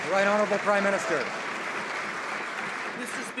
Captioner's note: some Applause